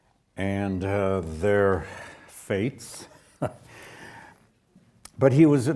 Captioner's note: chuckles